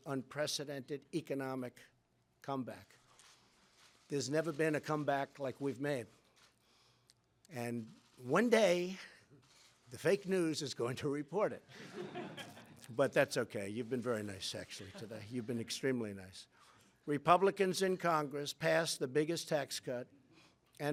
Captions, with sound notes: unprecedented economic comeback. There's never been a comeback like we've made. And one day, the fake news is going to report it. (Laughter) But that's okay -- you've been very nice, actually today. You've been extremely nice. Republicans in Congress passed the biggest tax cut